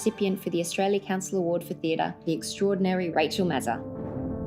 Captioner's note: applause